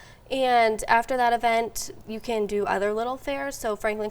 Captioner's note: none